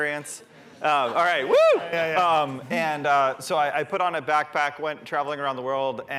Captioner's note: yelping